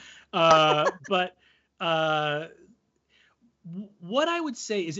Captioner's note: laughs